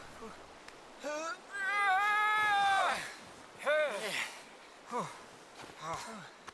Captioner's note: grunts and groans